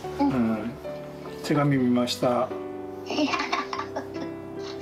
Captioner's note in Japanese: 笑い声